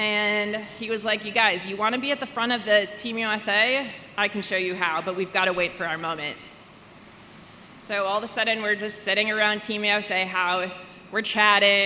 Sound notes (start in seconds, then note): none